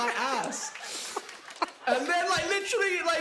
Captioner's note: laughter